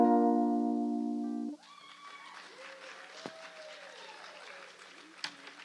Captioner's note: cheers and applause